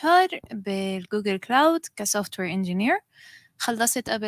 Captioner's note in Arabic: لغة أجنبية